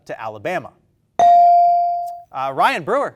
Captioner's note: bell dings